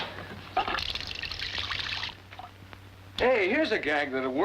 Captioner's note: water flowing